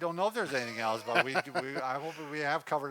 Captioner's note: chuckles